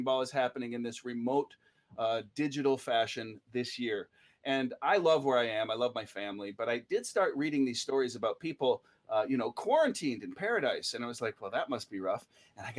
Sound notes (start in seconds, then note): none